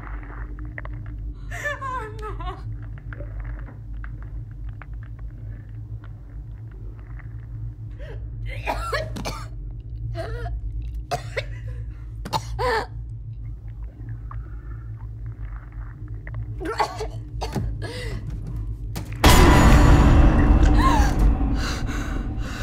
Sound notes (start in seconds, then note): 0.0 biting and suction sound; 2.8 feeding sounds; 8.5 gagging; 13.4 feeding sounds; 16.9 throwing up